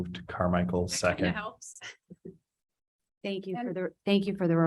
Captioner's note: chuckles